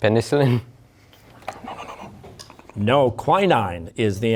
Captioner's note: whispering